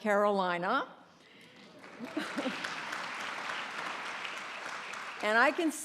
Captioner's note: applause